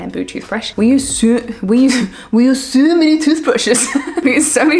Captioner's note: laughs